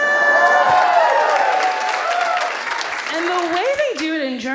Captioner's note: audience cheers